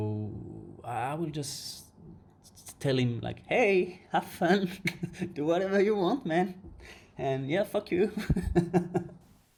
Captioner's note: laugh